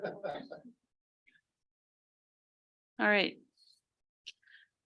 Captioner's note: board member laughing